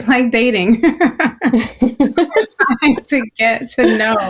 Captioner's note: laughing